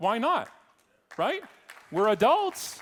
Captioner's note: audience clapping